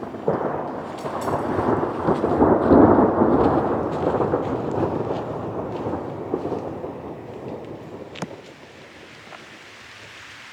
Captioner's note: thunder; rain starts again